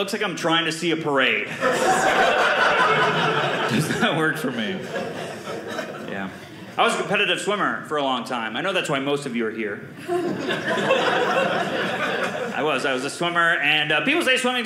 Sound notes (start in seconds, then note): 1.4 audience laughing; 10.0 audience laughing